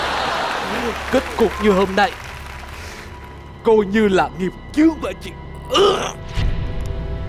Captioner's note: cough